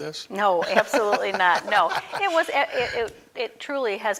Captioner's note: laughing